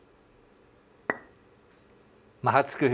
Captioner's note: popping